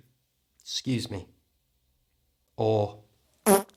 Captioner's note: fart noise